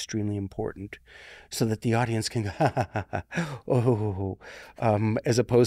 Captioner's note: chuckling